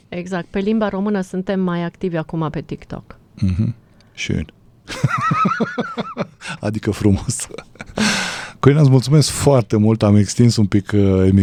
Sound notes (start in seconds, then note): 4.8 laughter; 7.9 gasp